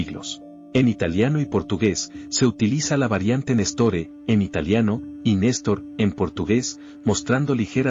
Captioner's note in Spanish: en portugués